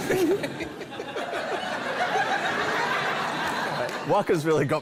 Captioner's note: laughter